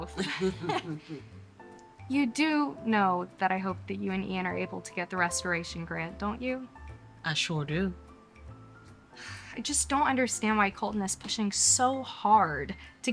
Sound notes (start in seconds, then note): 0.1 both chuckling; 9.2 sighs